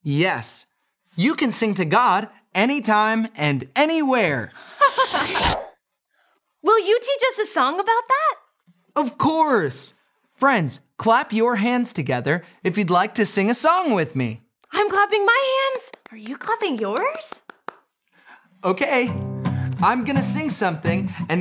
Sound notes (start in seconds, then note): 4.8 laughing; 4.8 whooshing